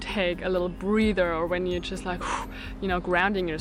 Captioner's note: exhales